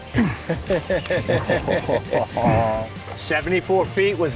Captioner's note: anglers laughing